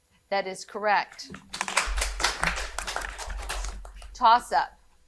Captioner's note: audience applauding